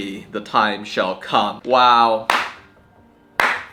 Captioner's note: claps